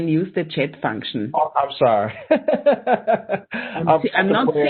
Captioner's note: laughing